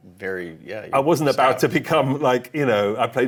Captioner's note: chuckling